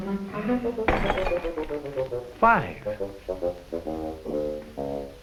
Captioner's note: glass shattering